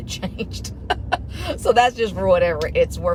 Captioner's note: chuckles